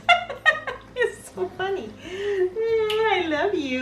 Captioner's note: laughs